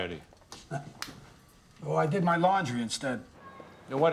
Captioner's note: chuckles